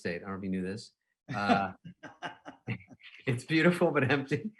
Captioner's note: laughing; chuckling